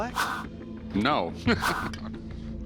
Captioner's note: laughs